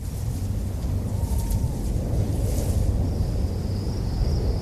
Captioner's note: wind whooshing